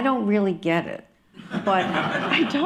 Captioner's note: laughter